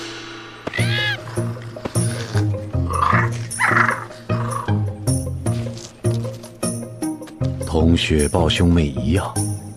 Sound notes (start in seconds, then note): 2.9 cubs growling